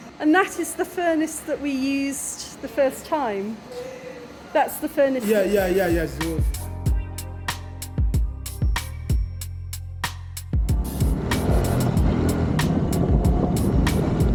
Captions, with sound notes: - And that is the furnace that we used the first time? That's the furnace? - Yeah, yeah, yeah, it's the one. [chill music] [engine noise]